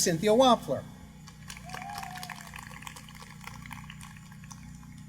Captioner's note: applause